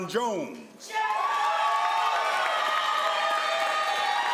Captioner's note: crowd applauds